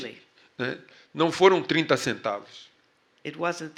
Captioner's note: speaking portuguese